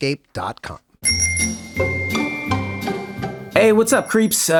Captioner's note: bicycle bell dings